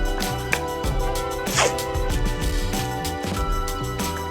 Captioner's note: tape tearing